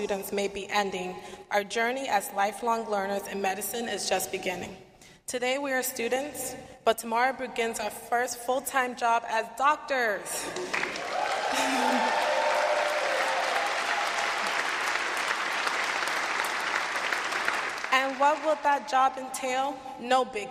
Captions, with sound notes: So, while our time as formal students may be ending, our journey as lifelong learners in medicine is just beginning. Today we are students, but tomorrow begins our first full-time job as doctors! [ Cheers and applause ]